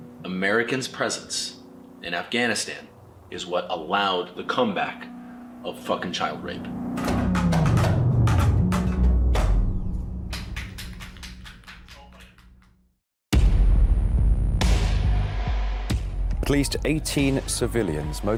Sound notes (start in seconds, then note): 10.3 onlookers clap; 13.4 ominous music